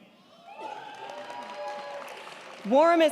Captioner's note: crowd cheering; crowd clapping